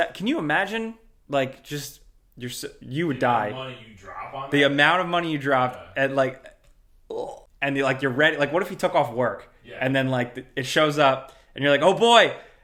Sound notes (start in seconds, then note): 7.1 groans